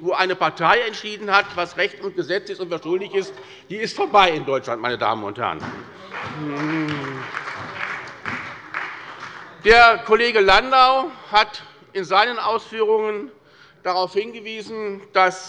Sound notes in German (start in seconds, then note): 5.9 Beifall bei der SPD